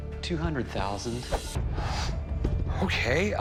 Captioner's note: gasps